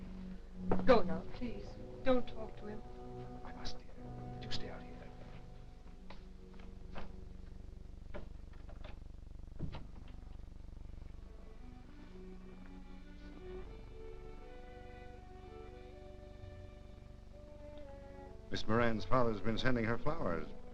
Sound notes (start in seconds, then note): 9.5 door thudding; 11.0 grim somber music